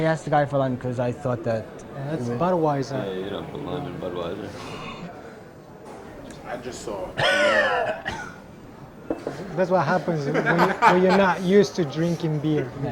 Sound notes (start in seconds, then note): 7.2 chokes